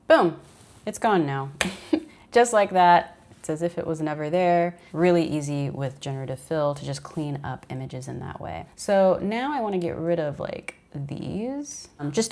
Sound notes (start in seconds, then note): 1.6 chuckles